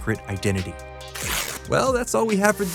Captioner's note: page tears